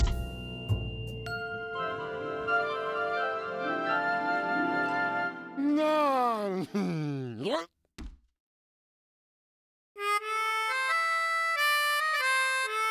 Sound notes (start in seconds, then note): 0.1 ringing; 5.6 mumbles happily; 7.5 grunts; 10.1 jazzy tune